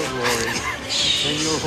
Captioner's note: chuckling